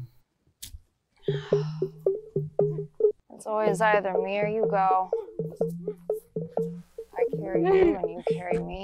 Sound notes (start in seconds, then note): 0.0 comical music; 1.2 Laurel sighs